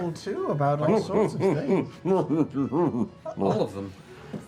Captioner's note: muted laughter